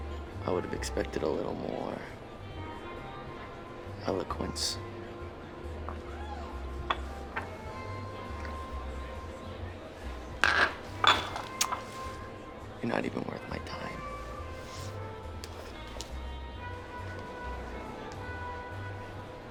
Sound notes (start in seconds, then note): 5.3 crowd chattering over pleasant big band music; 10.4 glass rattling; 16.6 crowd chattering over pleasant big band music